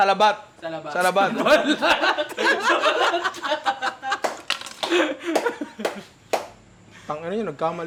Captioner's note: laughter